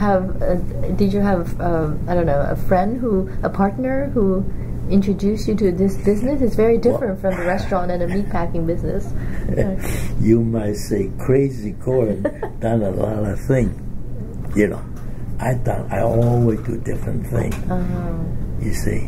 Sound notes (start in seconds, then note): 6.9 laughs; 15.0 laughs